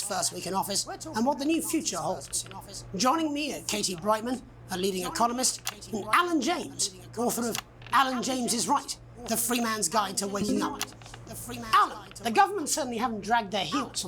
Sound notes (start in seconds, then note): none